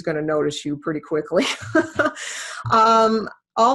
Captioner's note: laughs